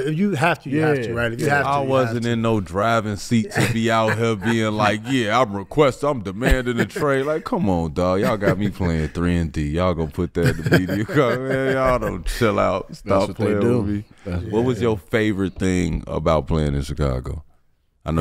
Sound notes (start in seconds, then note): 4.8 Metta laughing